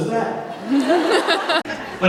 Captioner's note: crowd laughs